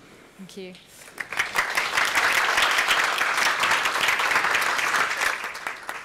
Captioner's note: applause